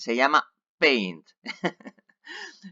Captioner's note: laughs